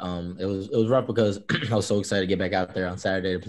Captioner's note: throat clears